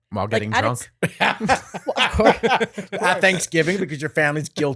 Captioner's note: both laughing